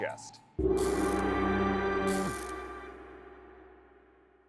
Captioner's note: logo swooshing